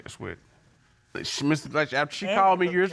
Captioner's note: stuttering